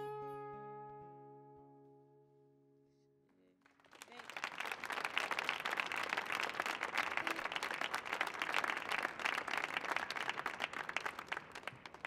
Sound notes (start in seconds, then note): 3.6 audience applauding